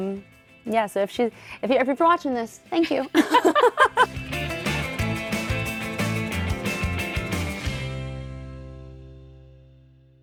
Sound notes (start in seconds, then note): 2.8 upbeat music; 3.0 both laughing